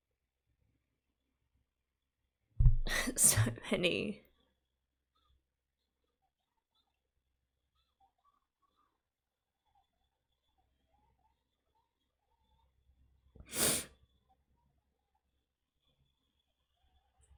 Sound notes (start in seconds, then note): 13.5 sniffs